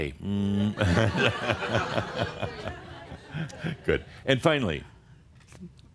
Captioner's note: Adamus shows his middle finger again and more chuckles